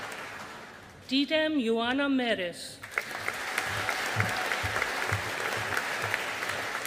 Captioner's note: audience applauding